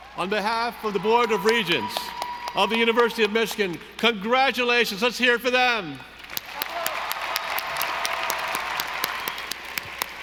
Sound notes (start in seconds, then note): 6.1 audience applauding